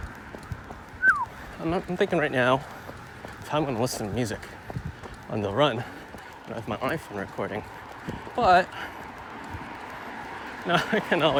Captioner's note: whistles